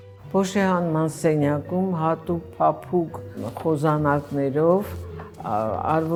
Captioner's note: speaking in foreign language